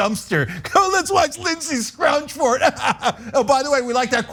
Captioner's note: laugh